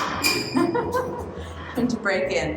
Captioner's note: laughter